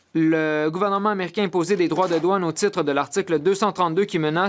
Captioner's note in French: voix de l'interprète